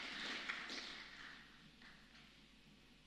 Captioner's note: applause